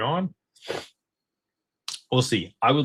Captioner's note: snorts